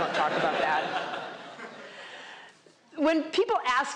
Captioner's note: laughter